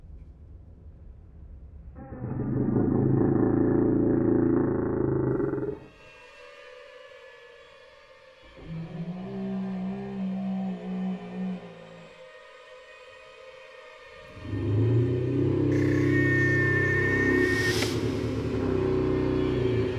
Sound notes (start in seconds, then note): 2.0 creature growling; 2.0 eerie music; 15.7 electronic whirring